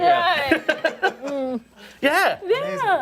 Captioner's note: laughter